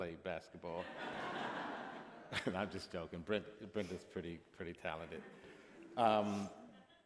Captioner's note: laughter